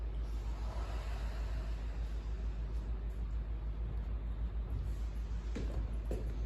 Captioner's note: inhale; exhale